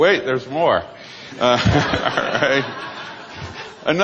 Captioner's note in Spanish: Risas